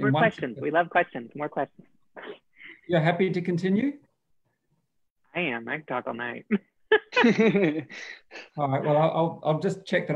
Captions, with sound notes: - More questions, we love questions, more questions. - You're happy to continue? - I am, I can talk all night. (laughing) - All right, well, I'll just check